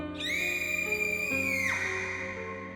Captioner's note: girl screaming